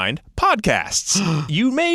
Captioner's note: gasp